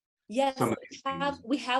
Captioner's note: faintly speaks